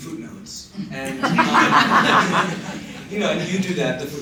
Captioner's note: laughter